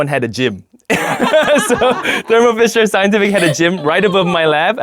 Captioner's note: laughing